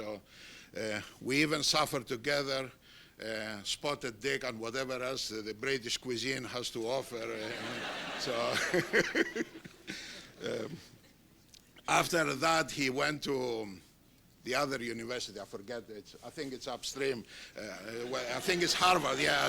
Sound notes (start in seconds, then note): 7.3 laughter